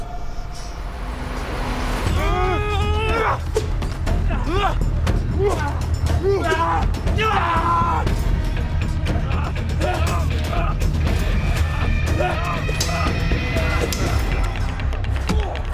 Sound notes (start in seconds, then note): 2.1 all moaning; 8.3 dramatic music